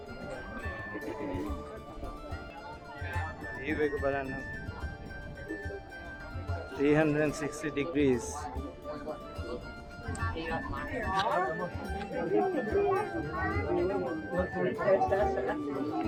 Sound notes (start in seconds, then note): 10.9 people talking